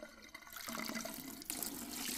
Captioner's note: splashing water